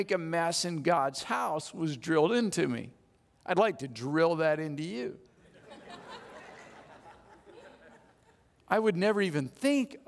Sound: audience laughs

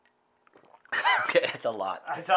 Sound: laughing

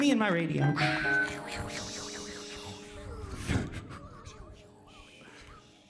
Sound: band imitating radio static

